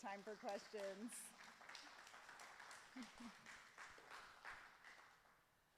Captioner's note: audience clapping